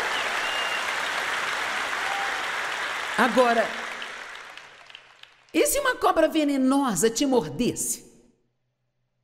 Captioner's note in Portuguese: audiência se alegra